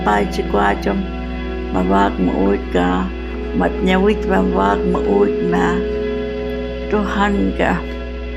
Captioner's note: speaking Hualapai